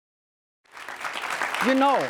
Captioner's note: joyful music; audience applause